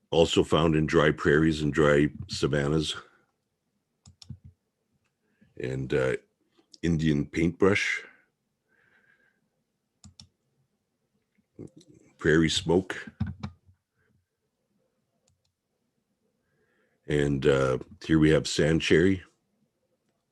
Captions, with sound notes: Also found in dry prairies and dry savannas. (mouse clicking) And Indian paintbrush. (mouse clicking) Prairie smoke. (keyboard clanking) (mouse clicking) And here we have sand cherry.